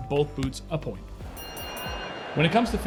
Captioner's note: boxing bell rings